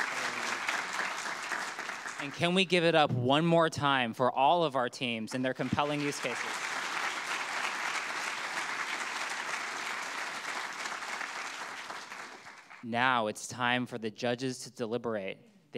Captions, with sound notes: And can we give it up one more time for all of our teams and their compelling use cases? (audience clapping) Now it's time for the judges to deliberate.